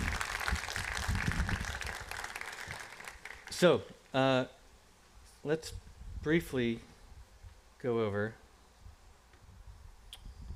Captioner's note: applause